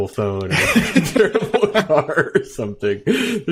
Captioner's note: laughing